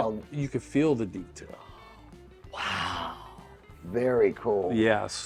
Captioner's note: gasps